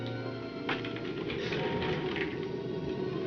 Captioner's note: floor creaks